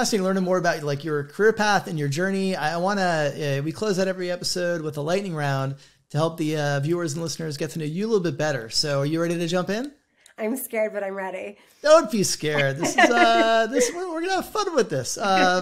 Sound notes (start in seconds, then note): 12.5 laughs